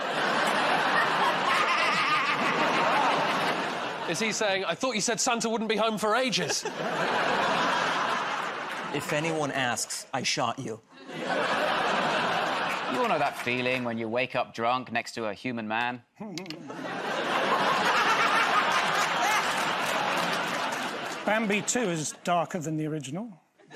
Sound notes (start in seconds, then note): 0.0 laughter; 6.2 laughter; 11.0 laughter; 16.3 laughter; 23.5 laughter